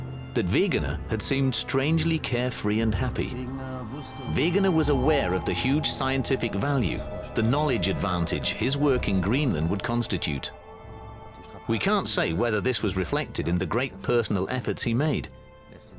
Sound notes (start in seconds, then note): 3.4 speaking German